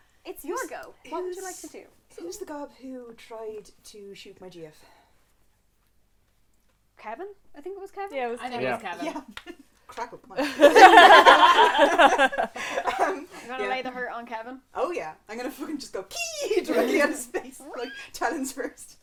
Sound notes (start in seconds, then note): 10.4 laughter; 10.4 cracking knuckles